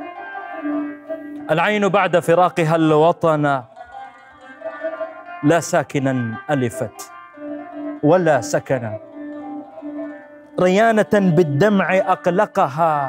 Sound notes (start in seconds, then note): 1.3 saying poetry